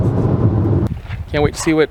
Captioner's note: car engine roaring